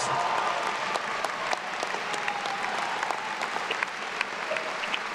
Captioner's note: attendees cheering and applauding